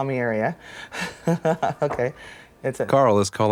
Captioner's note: laughs